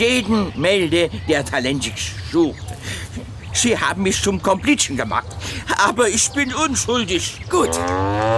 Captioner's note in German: gelächter